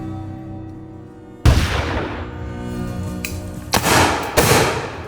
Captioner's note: gunshots cracking